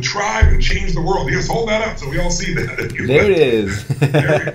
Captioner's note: laughs